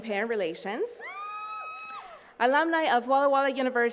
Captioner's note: attendees cheering